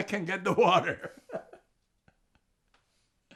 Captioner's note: laughing